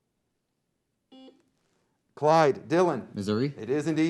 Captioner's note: beep